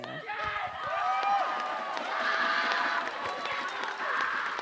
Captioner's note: audience cheering